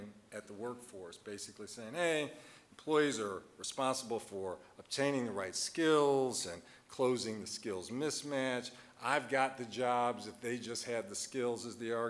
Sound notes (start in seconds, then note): none